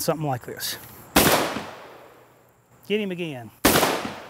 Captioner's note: gun firing